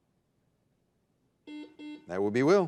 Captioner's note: buzzer dings